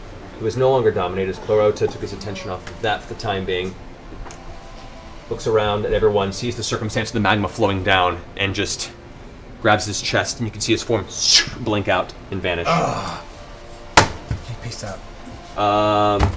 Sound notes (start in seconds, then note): 12.6 groans